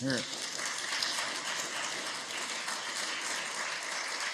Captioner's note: applause